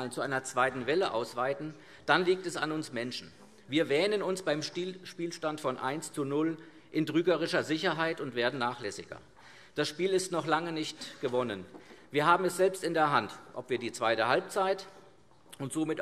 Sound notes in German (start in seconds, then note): none